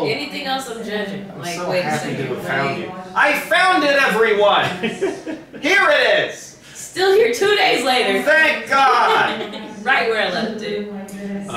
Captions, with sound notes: - Anything else, I'm judging, like-- - I found it everyone! (laughing) Here it is! - Still here two days later. - Thank God! - Right where I left it.